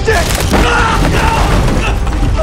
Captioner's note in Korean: 소리를 지르며